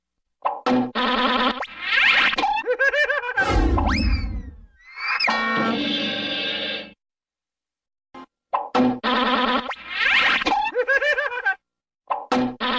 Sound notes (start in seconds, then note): 0.3 cartoon sounds; 9.0 cartoon sounds continuing